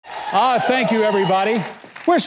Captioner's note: audience cheering